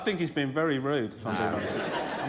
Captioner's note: laughter